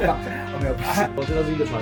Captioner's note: laughs